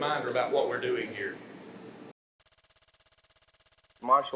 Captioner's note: film projector sounds